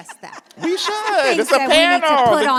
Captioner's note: audience laughs